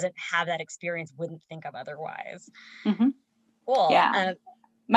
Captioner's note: hums in agreement